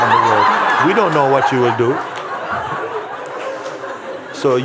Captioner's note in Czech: smích